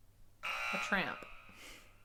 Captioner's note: buzzer sounds